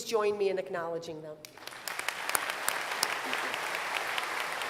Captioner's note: applause